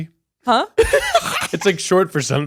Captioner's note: laughing